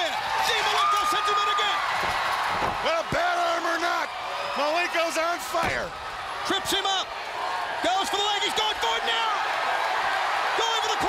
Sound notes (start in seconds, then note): 1.3 crowd cheering; 8.2 crowd cheering